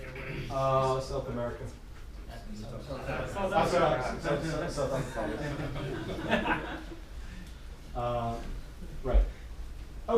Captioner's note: pointing to the South Africa, people laughing